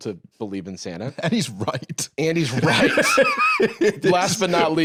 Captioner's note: laughing